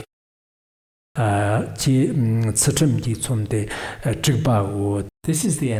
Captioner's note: giving oral transmission in Tibetan